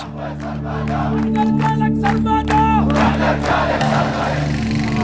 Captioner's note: Arabic spoken audio